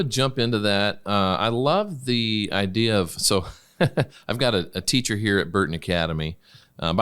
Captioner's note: laughs